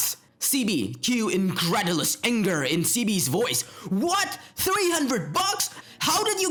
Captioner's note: Cue incredulous anger in CB voice